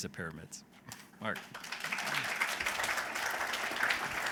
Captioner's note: applause